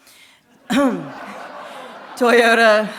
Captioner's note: audience applauding